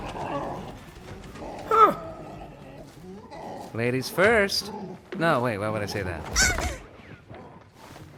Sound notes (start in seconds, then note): 2.7 Gloink Queen groaning